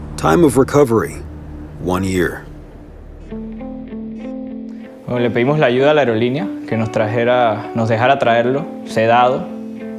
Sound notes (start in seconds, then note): 3.8 gentle music; 3.8 speaking Spanish